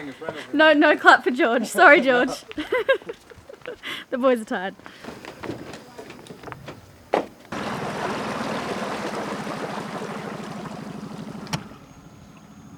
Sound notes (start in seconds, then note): 2.2 giggles; 7.5 boat motor running